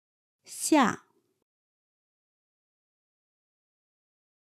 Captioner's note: in a casual tone